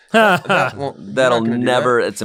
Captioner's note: Ian laughs